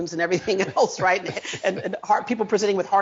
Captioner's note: chuckles